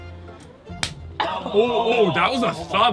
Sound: hand slaps

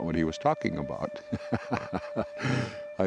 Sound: laughing

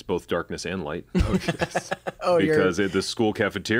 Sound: laughter

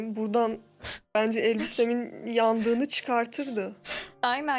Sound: chuckling

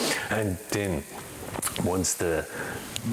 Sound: sizzling sound

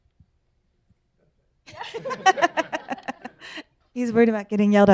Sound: laughs

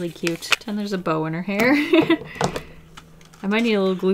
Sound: laughs

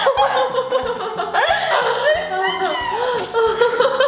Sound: laughs

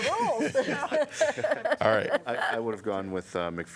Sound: laughter

